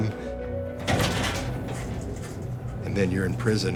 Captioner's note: door clanging